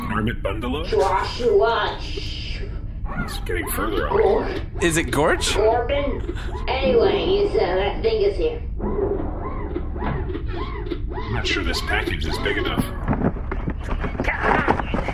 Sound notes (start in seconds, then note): 8.8 ship door opens, C-53 sets something down; 13.0 sounds of cardboard opening, struggling